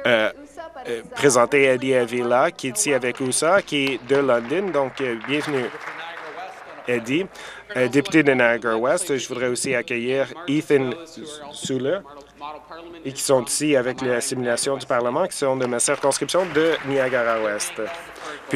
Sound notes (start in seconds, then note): 6.8 applause